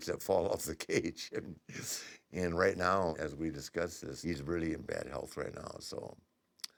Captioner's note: laugh